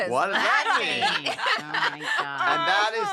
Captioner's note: laughter